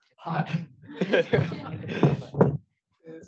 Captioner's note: all laughing